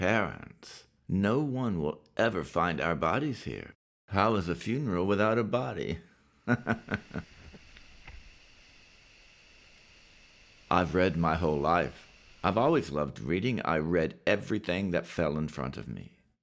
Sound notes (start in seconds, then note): 6.4 laughs; 6.5 water hissing